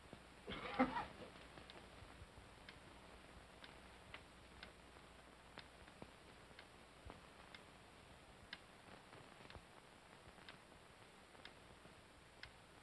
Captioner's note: clock ticks softly